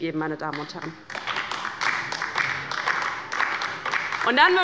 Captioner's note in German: Beifall bei der LINKEN